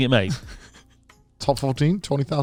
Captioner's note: chuckles